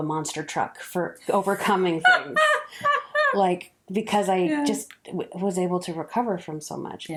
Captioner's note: laughs